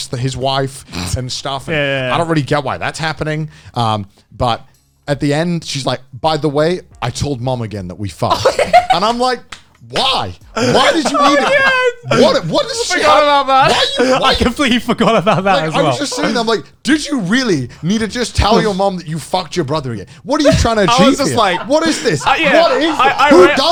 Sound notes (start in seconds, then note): 8.3 laughs; 12.5 overlapping chatter and laughter